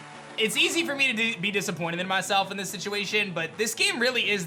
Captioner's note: none